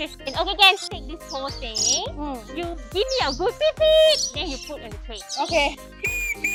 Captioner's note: whistle